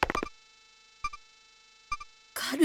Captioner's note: silence